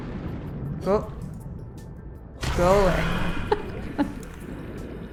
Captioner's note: laughs